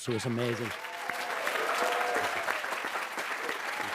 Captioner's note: audience clapping